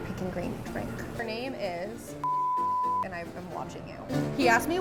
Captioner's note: beep